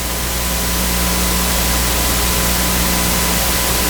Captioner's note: loud staticky buzz